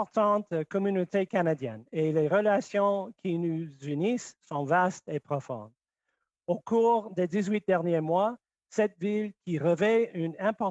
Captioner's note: speaking French